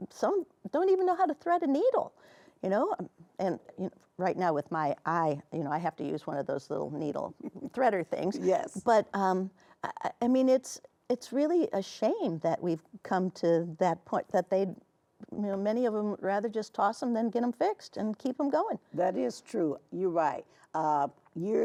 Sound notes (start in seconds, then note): 7.4 chuckling